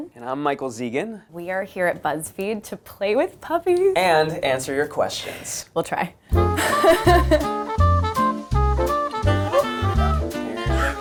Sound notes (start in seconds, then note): 6.4 upbeat music; 6.5 laughter